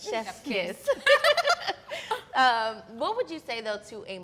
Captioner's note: all laugh